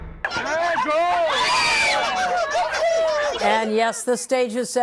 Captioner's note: cheers and applause